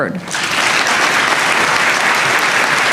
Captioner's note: applause